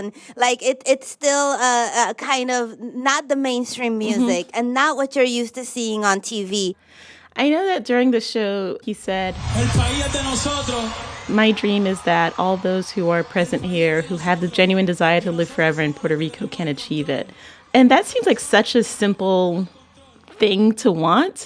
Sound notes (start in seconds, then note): 9.1 soundbite of archived recording; 10.5 speaking Spanish